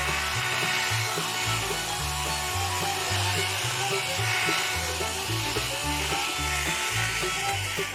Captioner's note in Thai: ปรบมือ